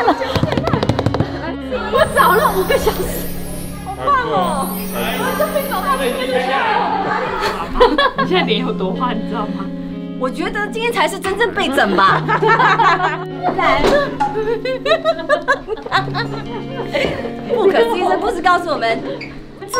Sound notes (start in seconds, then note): 0.1 drum beats; 7.2 giggles; 11.8 hahahaha